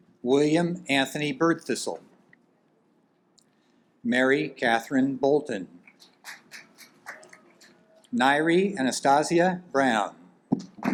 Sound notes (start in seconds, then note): 5.9 audience applaud